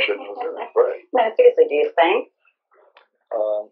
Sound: laughs

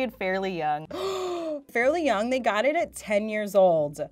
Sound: gasps

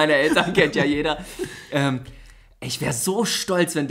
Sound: laughs

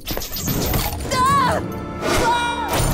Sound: shrieking

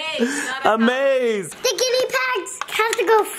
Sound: laughs

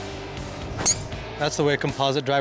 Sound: golf club hitting ball

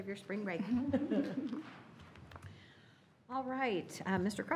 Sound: laughing

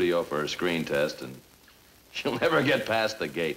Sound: chuckling

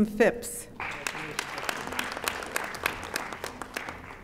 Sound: audience applauding

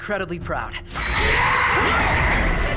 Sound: scream

